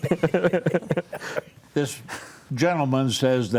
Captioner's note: panelists laughing